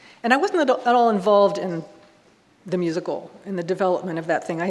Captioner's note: none